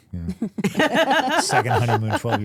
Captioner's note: laughing